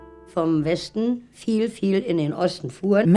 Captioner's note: speaking german